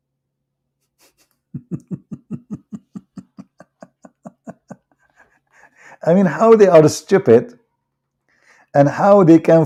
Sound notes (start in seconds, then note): 1.5 Ketawa